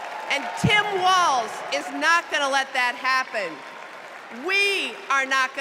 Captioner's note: cheers and applause